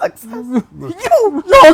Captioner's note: laughing